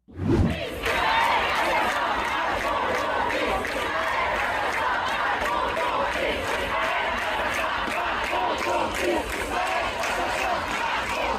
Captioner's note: Bertepuk tangan